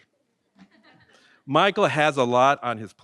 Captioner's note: audience laughs